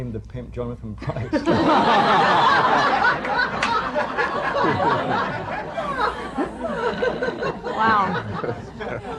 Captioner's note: laughter